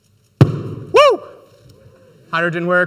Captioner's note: balloon pops